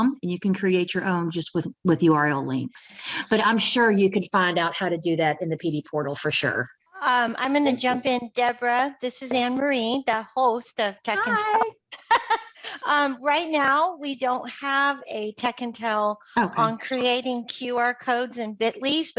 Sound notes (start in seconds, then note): 11.9 laughs